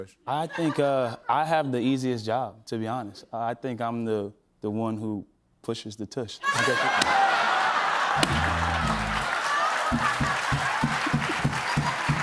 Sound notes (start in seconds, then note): 6.5 laughter